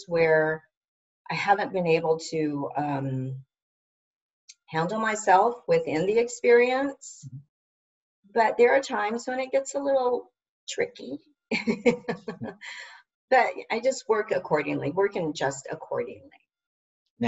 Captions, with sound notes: where I haven't been able to handle myself within the experience. But there are times when it gets a little tricky, (laughs) but I just work accordingly, working just accordingly.